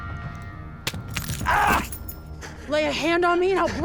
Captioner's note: bones crush; thomas yells